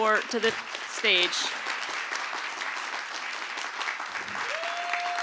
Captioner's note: applause